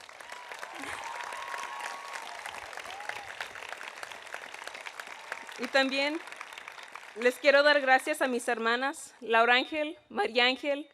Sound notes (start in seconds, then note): 0.0 audience cheering; 0.0 audience applauding; 6.0 speaking in Spanish